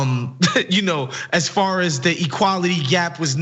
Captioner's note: laugh